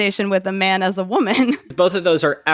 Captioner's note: laughs